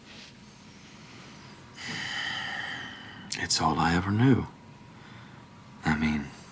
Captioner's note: sighs